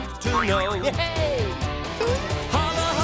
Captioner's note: dinging